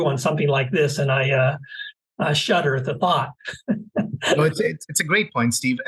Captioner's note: laugh